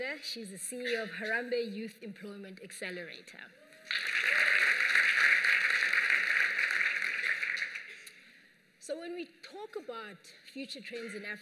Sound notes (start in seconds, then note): 3.8 applause